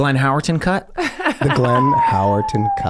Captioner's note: laughs